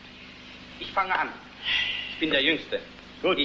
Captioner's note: sigh